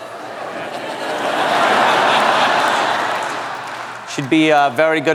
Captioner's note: laughter